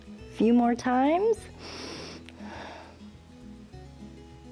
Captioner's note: inhales and exhales